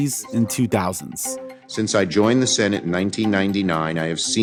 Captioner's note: soundbite of archived recording